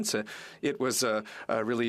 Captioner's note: speaking French